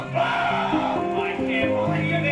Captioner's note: screams